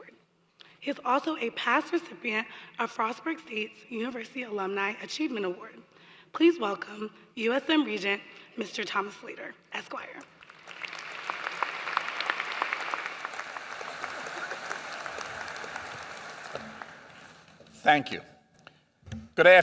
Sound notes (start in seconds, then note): 10.2 applause